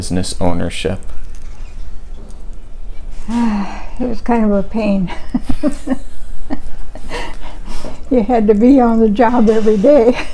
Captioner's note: sighs; chuckles